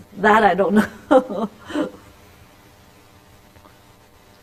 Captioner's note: laughter